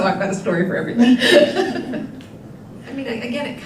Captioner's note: laughing